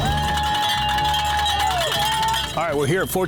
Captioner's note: people cheering; bells clanging